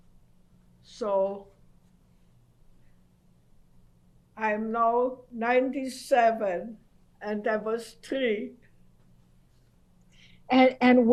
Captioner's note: pauses for 3 seconds